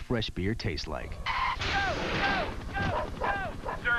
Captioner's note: dog Barking